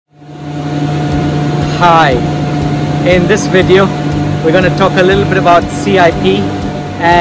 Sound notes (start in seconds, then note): 0.2 equipment whirring; 1.0 upbeat music